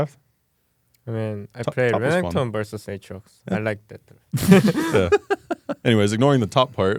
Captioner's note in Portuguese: risos